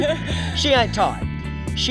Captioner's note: laugh